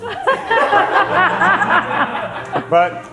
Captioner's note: crew laughing